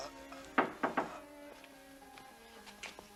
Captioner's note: knock at door